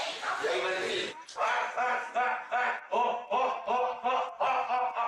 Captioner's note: shouts repeatedly